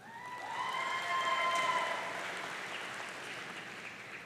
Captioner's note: audience cheering